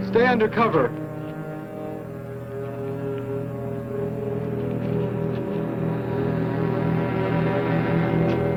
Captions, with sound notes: Stay undercover! [ CITY TRAFFIC ]